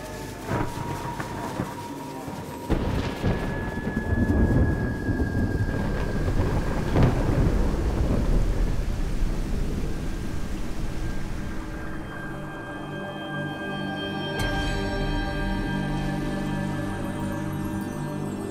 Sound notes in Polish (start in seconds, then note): 0.2 odgłos burzy; 6.5 dźwięk płynącej wody